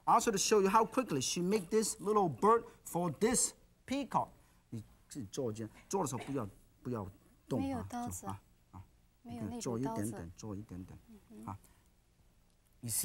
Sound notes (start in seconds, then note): 4.8 Yan speaking in foreign language; 8.1 both speaking in foreign language